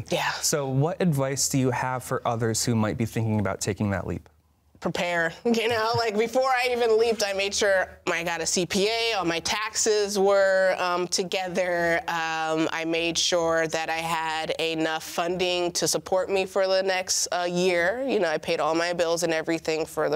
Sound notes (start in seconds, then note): 5.7 laughs